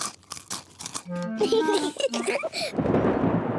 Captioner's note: both giggle; thunder rumbling